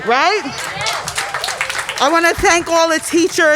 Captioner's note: crowd applauding